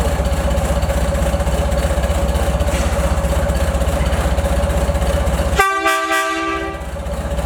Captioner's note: engine running...horn sounded